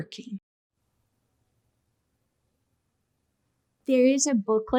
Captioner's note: silence